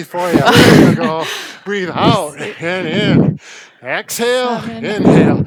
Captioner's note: laughs